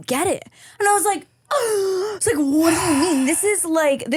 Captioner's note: gasp